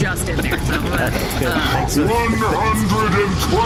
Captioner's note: roaring